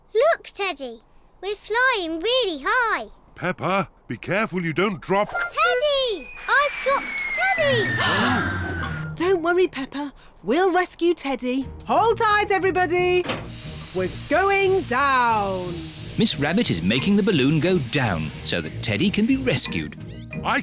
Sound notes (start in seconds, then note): 8.2 all gasp